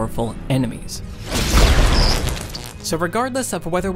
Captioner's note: electricity shocking